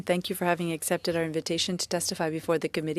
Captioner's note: speaking FRENCH